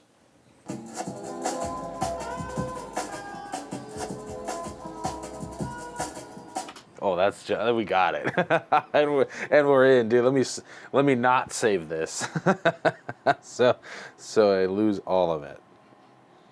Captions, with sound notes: [funky jungle track] Oh, that's ju— We got it. [laughter] And we’re in. Dude, let me— Let me not save this. So. So I lose all of it.